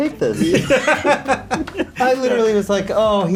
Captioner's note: laughing